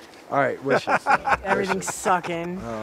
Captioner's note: interviewer laughs